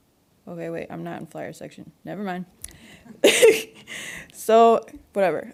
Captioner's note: laughs